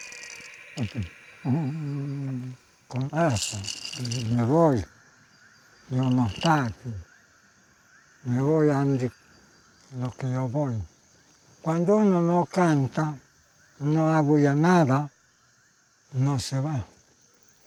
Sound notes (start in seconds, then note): 2.9 speaking Spanish